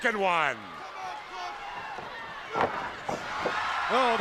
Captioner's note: crowd cheering